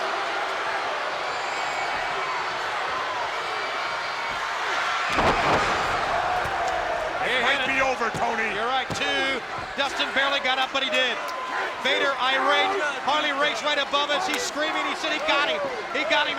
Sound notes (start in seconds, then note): 0.2 crowd cheering; 5.1 Vader thuds